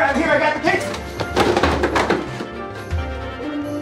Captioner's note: boxes clattering